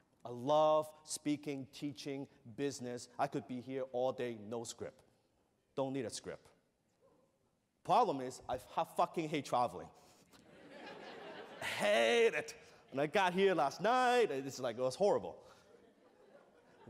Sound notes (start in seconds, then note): 10.4 laughter